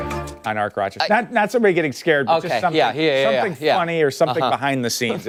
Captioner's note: laughter